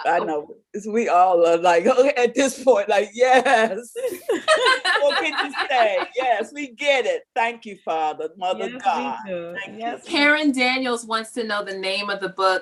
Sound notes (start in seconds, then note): 3.4 laughs